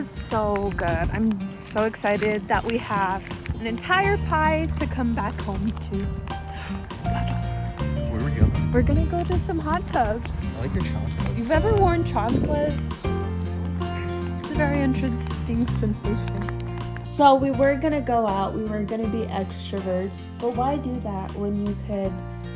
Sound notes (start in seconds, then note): 6.5 gasp